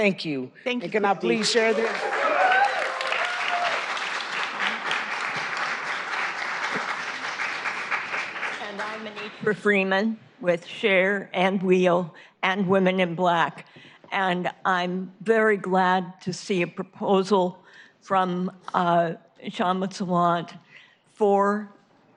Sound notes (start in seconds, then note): 6.9 applause